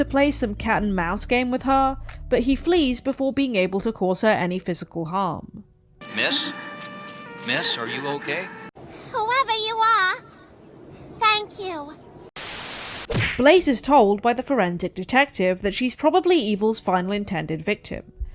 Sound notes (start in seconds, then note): 12.4 static